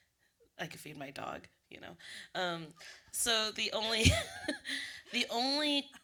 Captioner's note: laughter